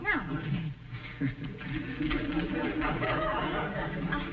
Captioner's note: chuckles